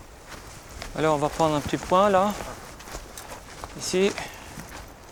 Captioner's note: French spoken audio